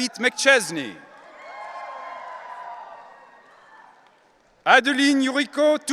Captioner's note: audience cheering